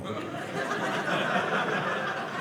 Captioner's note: audience laughing